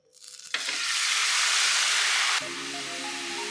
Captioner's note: sizzle sizzle